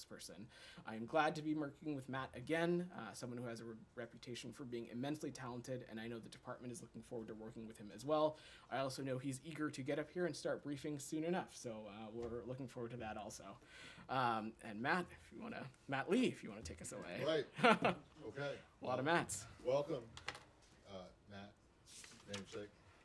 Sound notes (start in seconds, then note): 17.4 laughter